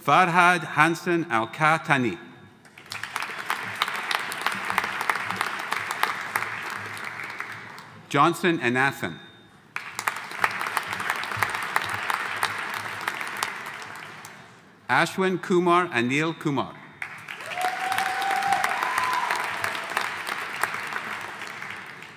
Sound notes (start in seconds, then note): 2.7 audience applauding; 9.7 audience applauding; 17.0 audience applauding; 17.4 audience cheering